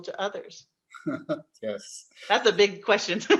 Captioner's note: laughs